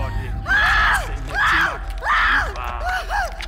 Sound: screams

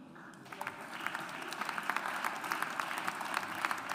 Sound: audience applauds

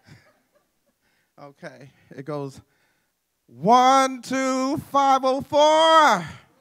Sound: laughter

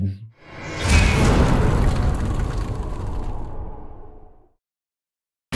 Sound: impact

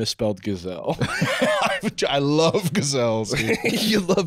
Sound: laughing

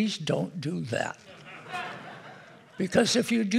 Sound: audience laughing

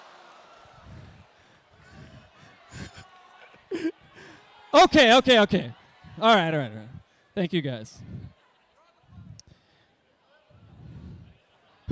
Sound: laughs

